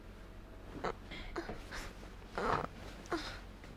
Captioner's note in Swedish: gruntande